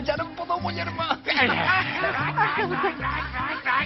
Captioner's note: grumbles